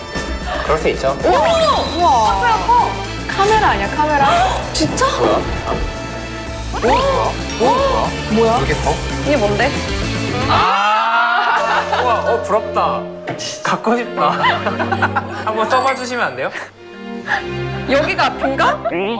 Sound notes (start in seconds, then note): 10.4 shouts out of joy!